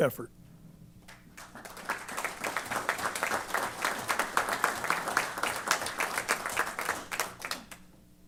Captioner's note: applause